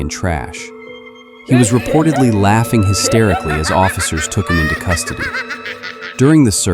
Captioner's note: maniacal laughters